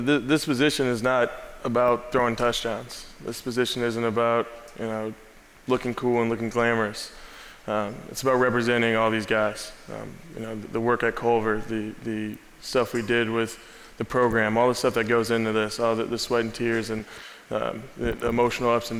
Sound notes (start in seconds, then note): none